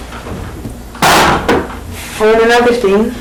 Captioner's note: thuds